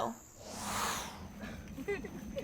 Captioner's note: whoosh; both chuckling